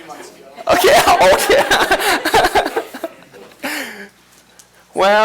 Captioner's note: laughter